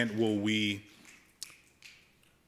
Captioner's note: snapping